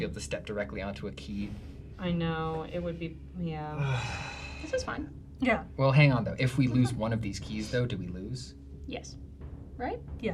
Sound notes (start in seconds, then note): 3.7 sighs dramatically